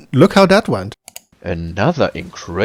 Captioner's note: click